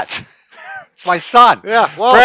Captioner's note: laughs